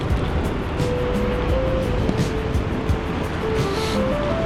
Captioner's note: wind Blowing